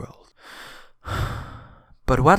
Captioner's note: sigh